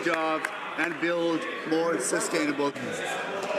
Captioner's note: some Applause